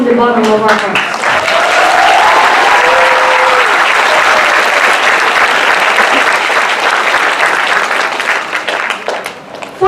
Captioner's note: applause